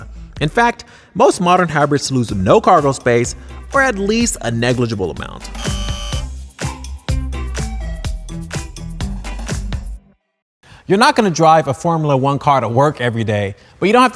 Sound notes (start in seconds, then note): 5.5 buzzer